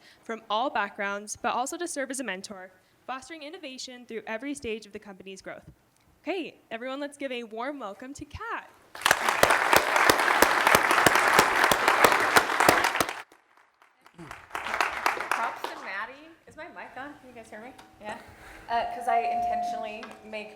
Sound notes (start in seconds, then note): 8.9 applause